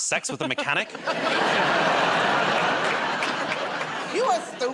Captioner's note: laughter and applause